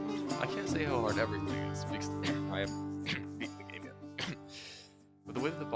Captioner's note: cough